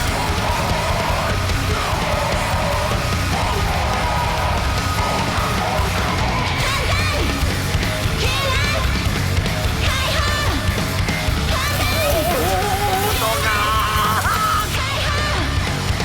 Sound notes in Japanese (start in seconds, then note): 0.1 バンド演奏; 0.8 稲子:デスボイス加工音声